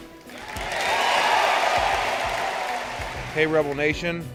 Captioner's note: applause